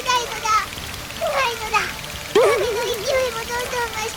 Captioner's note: hic!